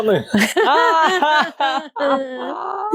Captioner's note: laughter